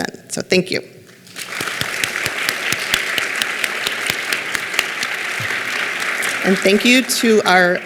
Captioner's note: clapping